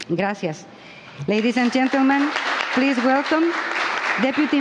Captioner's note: applause